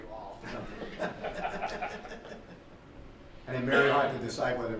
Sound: laughter

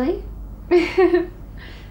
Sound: emma joyfully giggles

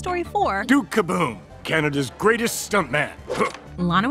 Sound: grunts

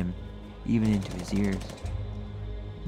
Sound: shooting

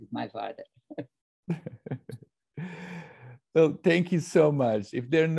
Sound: chuckles; laughs

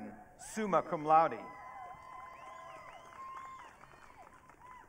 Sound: audience cheering

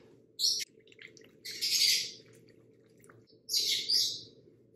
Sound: bird chirping

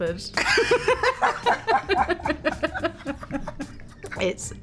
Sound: Olivia and Emma laugh

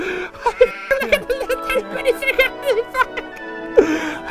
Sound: giggling; babbling excitedly

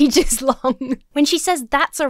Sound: laughs

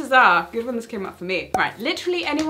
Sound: cork popping

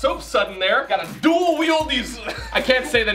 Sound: laughs

